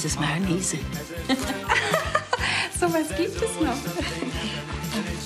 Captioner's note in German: lacht übertrieben